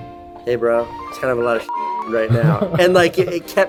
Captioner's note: beep